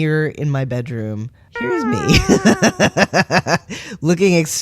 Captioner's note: laugh